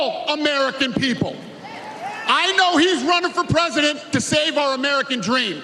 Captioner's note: cheers and applause